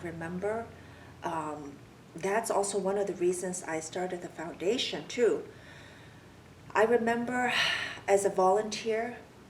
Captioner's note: sighs